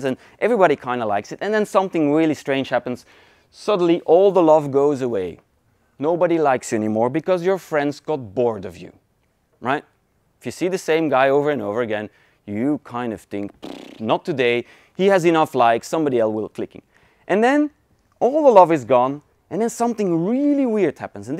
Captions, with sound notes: and everybody kind of likes it, and then something really strange happens, suddenly all the love goes away. Nobody likes anymore, because your friends got bored of you, right. If you see the same guy over and over again, you kind of think (raspberry blowing) not today, he has enough likes, somebody else will click it. And then, all the love is gone and then something really weird happens